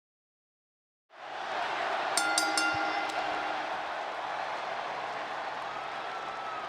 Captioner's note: applause